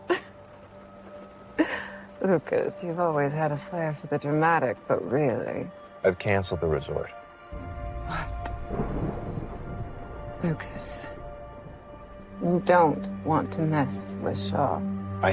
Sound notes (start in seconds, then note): 0.1 laughs; 9.4 thunder rolls